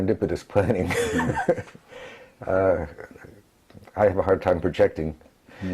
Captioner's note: laugh